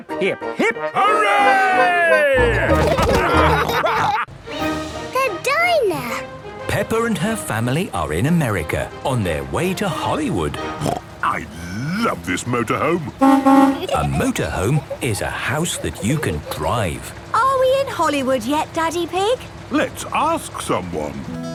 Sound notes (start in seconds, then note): 3.1 all laughing; 12.9 honking; 21.2 country music